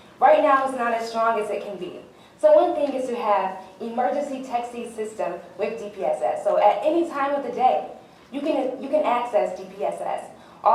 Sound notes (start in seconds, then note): none